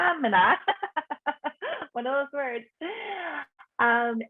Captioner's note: laughs